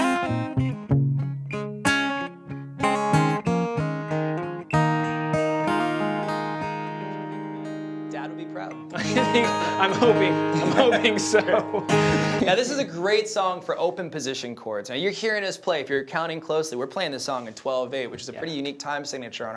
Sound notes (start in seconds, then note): 8.9 laughs